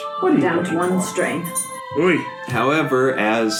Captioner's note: sound of distress